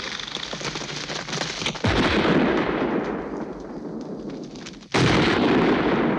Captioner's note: shotgun blasting